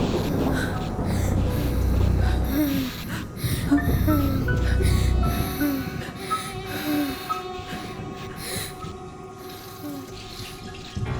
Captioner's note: child sighs